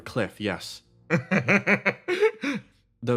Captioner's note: laugh